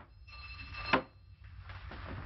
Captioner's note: the doorbell rings